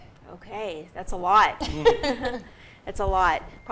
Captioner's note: laughing together